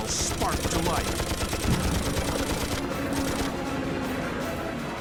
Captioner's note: guns firing